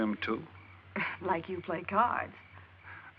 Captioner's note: scoffs